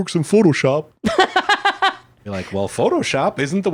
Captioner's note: laughs